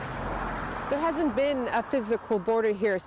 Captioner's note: a car drives